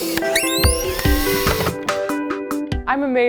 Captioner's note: drill squealing